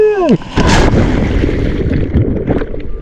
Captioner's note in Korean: 파도 치는 소리